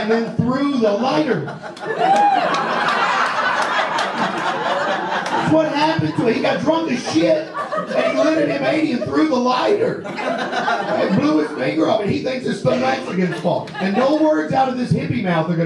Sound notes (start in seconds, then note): 1.6 audience laughs and claps; 10.4 audience laughs